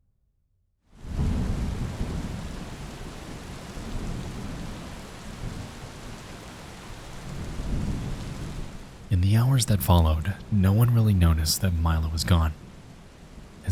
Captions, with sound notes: (rain pattering) (thunder rumbling) In the hours that followed, no one really noticed that Milo was gone.